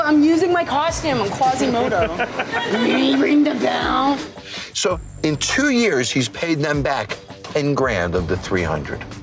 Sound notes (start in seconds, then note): 2.7 low-pitched voice